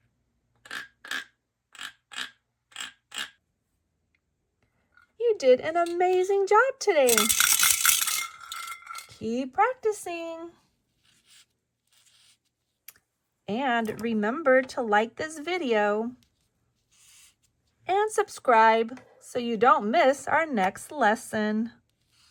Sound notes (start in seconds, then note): 0.1 frog croaks; 7.0 bells clatter